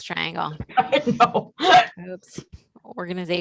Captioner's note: laughs